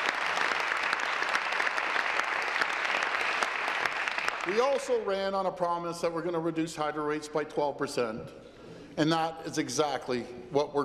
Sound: applause

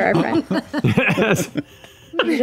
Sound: laughing

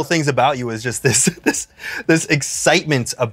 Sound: chuckles

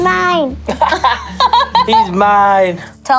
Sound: laugh

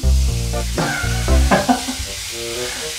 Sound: laughs

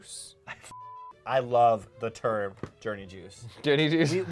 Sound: beep

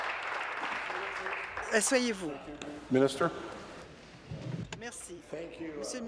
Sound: applause

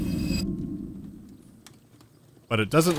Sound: riIING!; quiet fire crackling

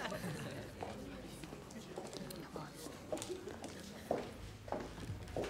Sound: laughing

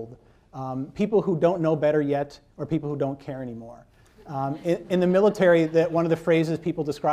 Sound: laughter

